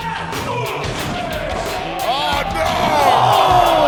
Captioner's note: rock music; announcer screaming "Oh no!"; crowd Cheering